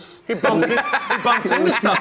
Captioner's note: laughs